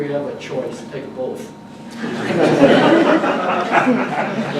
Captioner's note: audience laughs